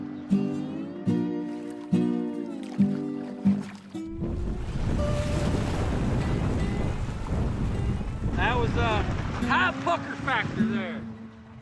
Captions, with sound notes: (water splashing) (wind and splashing) That was a high pucker factor there.